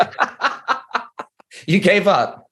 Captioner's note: laughing